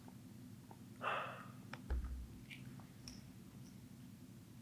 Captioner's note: Jacob exhales